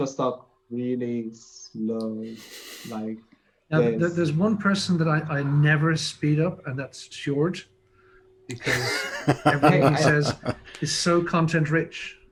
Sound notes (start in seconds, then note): 8.5 laughs